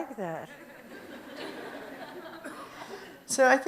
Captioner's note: audience chuckles